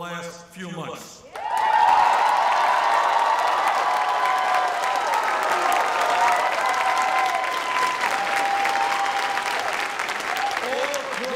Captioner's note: long Applause